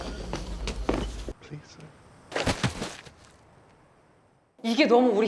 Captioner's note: rather, the lack of sound can be frightening